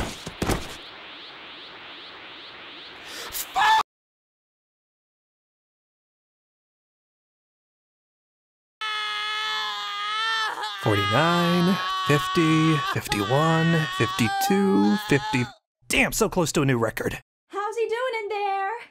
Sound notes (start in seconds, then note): 15.5 stops screaming